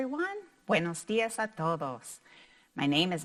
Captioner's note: speaking in foreign language